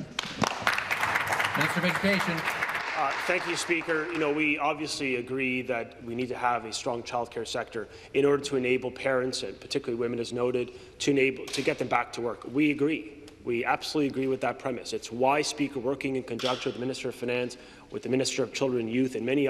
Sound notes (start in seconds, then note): 4.4 applause